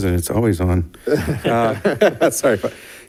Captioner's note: members laugh